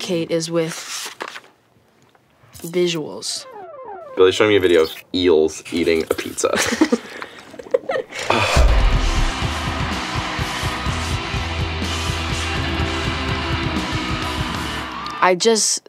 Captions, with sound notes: is with visuals. Billie's showing me a video of eels eating a pizza. [LAUGHING] [LOUD MUSIC PLAYING] [CROWD CHEERING] I just...